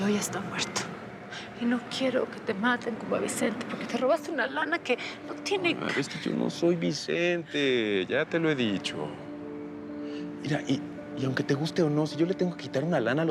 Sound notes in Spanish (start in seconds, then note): none